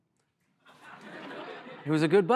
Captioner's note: laughter